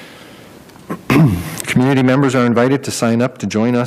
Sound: coughs

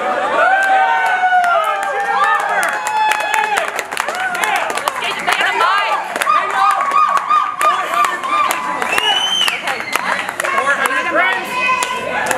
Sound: applause

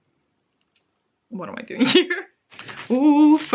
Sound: laughs

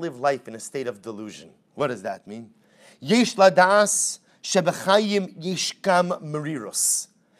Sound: Hebrew

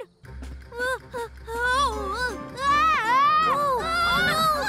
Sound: screams

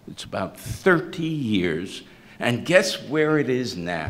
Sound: none

